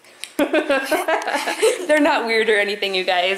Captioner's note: laughs